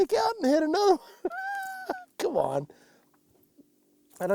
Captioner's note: laughs